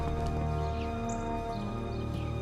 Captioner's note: birds chirping